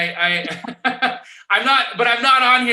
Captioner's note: laughing